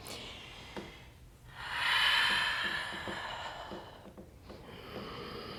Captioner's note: deep breathing